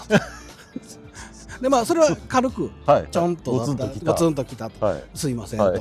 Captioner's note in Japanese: 笑い